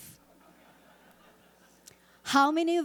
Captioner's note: audience laughing